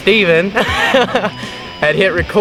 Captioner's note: hahaha